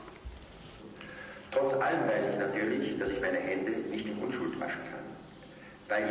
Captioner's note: on tape, in German